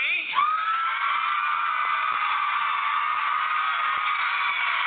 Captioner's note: crowd cheering